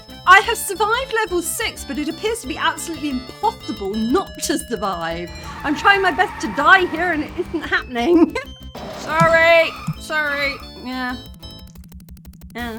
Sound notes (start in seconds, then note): 8.4 laughing; 12.0 laughing